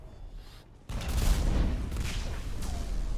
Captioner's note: boom